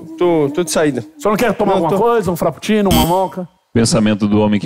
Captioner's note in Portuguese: campainha